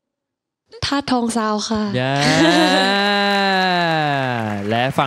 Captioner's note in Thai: ปรบมือ